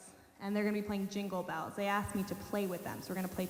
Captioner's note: none